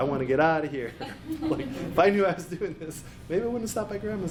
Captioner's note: laughs